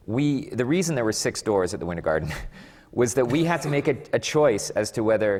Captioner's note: laughs